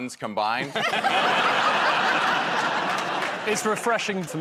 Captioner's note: laughter